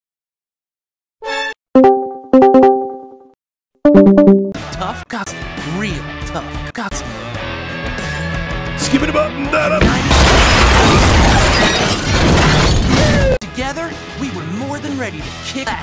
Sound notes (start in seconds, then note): 1.7 Discord join noise x3; 3.8 Discord leave noise x3; 9.8 ReviewTechUSA intro clip, crashing noises